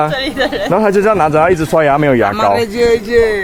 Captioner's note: local language